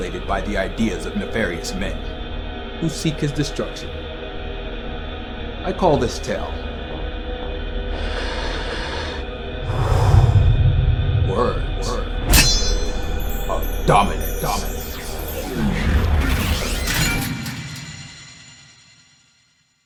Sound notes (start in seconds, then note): 7.9 exhales; 12.3 splash